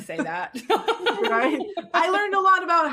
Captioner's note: laughing